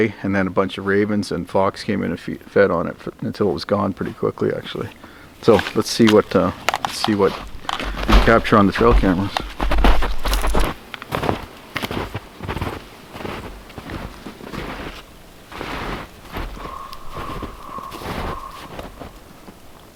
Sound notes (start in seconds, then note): 9.6 snow crunching; 15.8 bird cawing